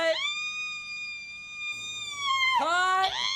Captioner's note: vivien screaming